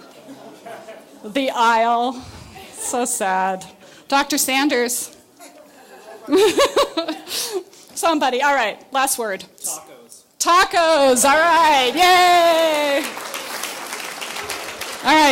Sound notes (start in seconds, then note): 5.4 laughs; 11.6 audience clapping